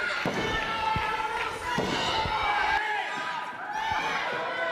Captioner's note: audience shouts; thudding